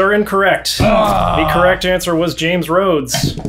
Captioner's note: grunting